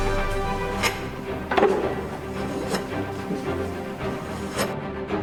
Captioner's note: knife scraping